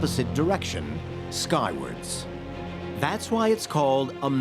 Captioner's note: none